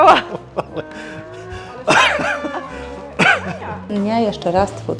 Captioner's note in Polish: kaszlnięcie; śmiech